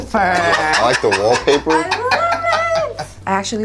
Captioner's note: laughing